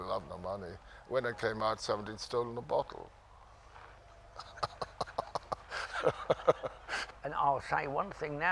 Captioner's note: laughs